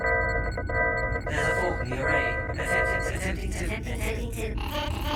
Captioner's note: malfunctioning sounds